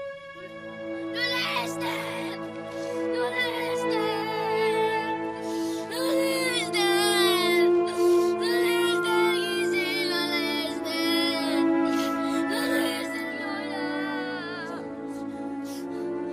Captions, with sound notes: Grandma Ester! [crying] Grandma Ester! Grandma Ester! Grandma Ester, wake up! Grandma Ester!